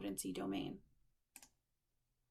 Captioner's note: click